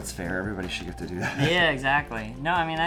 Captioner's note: laughs